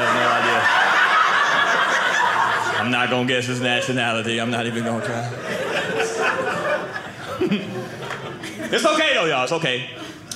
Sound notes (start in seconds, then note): 0.1 audience laughing; 5.9 audience laughing